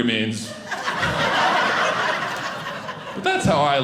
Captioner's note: audience laughing